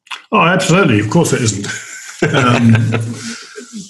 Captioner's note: laughs